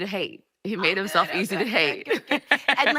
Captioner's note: laughing